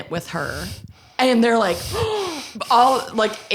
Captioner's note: gasps